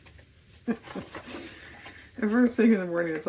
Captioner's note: laughs